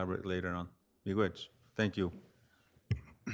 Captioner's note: speaks foreign language